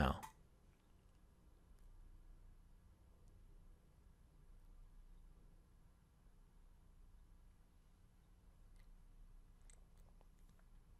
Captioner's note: pause